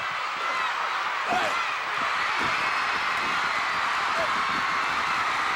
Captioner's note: audience cheering